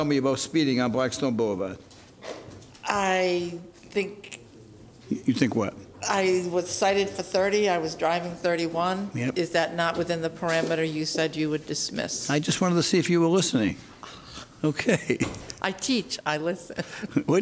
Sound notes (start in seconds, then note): 14.7 judge laughs